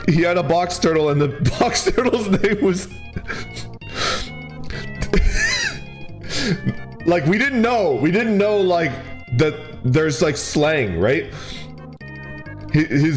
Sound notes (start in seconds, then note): 5.2 wheezes